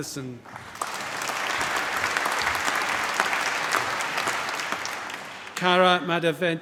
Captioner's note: applause